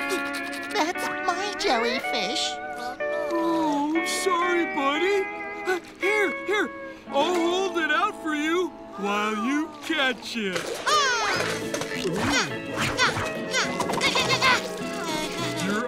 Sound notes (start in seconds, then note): 11.0 grunting; 12.9 groaning